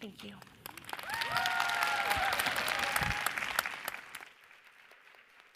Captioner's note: audience applauds